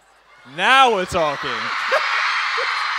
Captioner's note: audience cheers; laughing